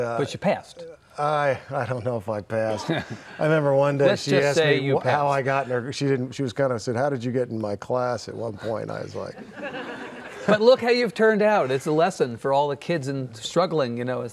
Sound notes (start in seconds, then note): 2.7 laughing; 9.4 laughing